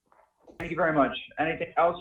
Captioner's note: rustling papers